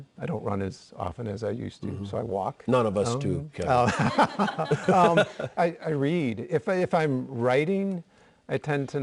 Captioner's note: laughter